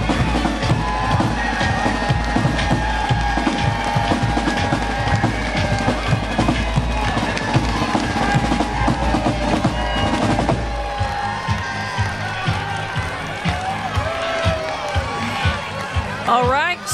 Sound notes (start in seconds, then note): 3.0 cheering; 7.4 drumroll